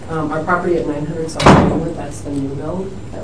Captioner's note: door slam drowns out voice